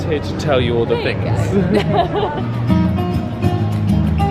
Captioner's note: laughs; chill guitar music